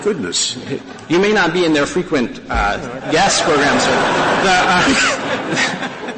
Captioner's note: laughter